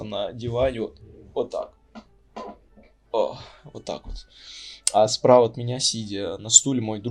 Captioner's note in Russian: Звуки дивана